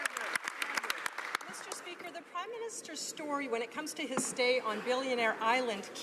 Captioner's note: some Applause